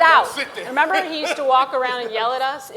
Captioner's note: Ta-Nehisi laughs